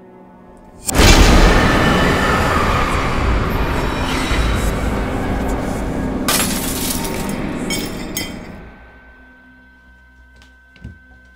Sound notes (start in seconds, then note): 0.5 dramatic music; 6.2 glass shattering